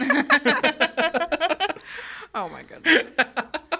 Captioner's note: all laughing